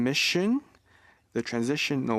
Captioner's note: speaking French